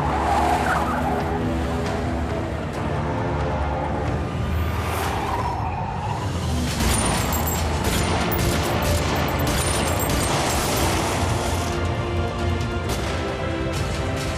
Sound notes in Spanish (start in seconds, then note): 0.0 Chirrido de llantas; 7.2 Disparos